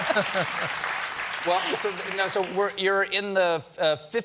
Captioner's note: applause